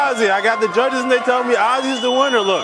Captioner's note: crowd cheering